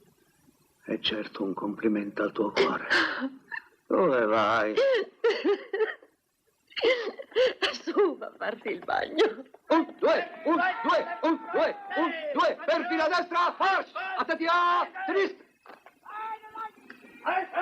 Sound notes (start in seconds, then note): 4.8 laughing